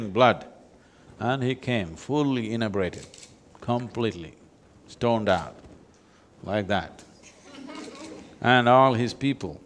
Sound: few laugh

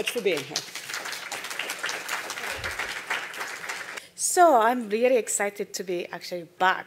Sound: applause

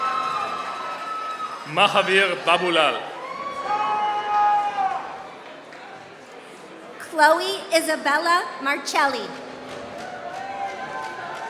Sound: applause

